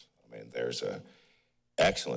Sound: pause

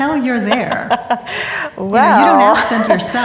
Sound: laughing

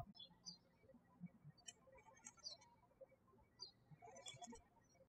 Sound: birds chirping

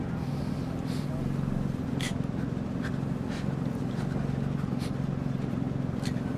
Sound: halting sobs

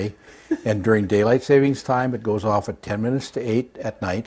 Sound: laughter

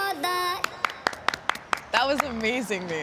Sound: both clapping

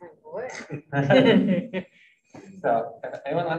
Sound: laughing

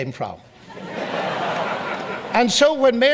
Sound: audience laughs

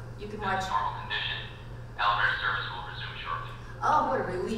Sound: voiceover

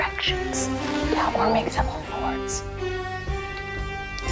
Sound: whispering

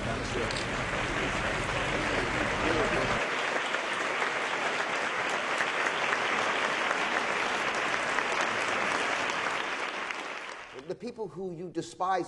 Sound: clapping

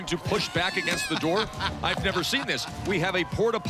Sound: laughs

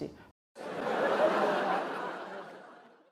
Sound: sit-com laugh

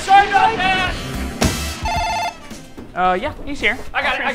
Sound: phone ringing

